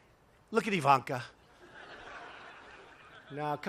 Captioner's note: laughter